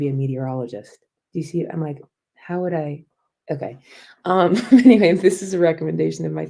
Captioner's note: laughter